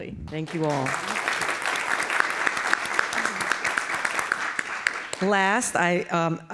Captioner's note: applause